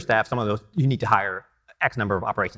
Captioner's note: none